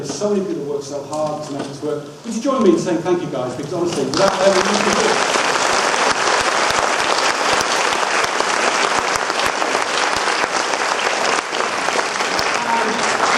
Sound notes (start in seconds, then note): 2.5 audience claps loudly